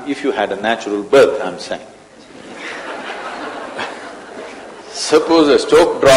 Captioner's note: laughter